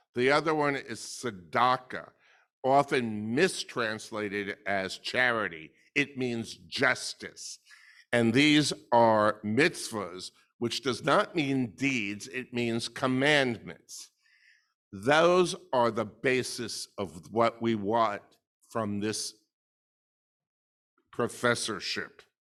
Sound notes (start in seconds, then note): none